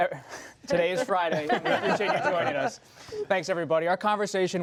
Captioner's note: laughter